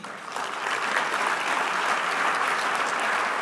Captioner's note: clapping